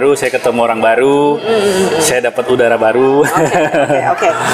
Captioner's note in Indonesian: hehehe